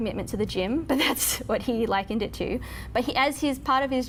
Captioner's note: laughs